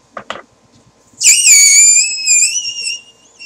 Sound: balloon makes terrible squealing noise

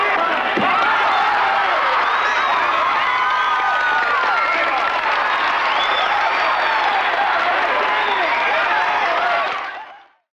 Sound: cheering

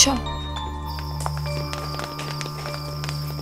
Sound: footsteps

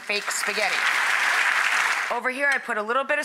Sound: audience applauding

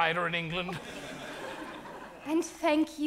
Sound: audience laughs

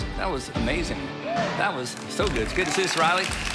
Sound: audience cheering

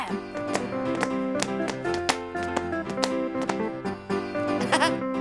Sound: shoes tapping; laughs

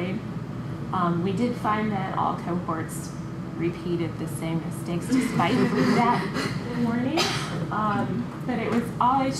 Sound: laughter

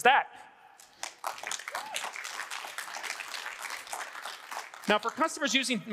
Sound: audience applauding

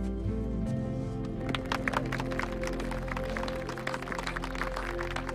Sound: applause

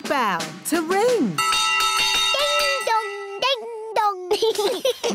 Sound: bell rings; laughter

